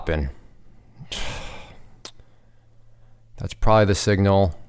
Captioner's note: sighs